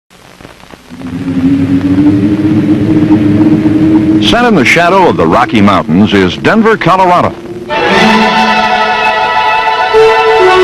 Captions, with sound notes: [ Wind howling ] -Set in the shadow of the Rocky Mountains is Denver, Colorado. [ Dramatic music plays ]